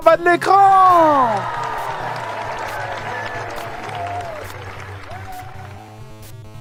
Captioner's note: applause